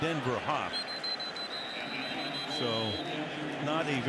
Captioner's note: whistle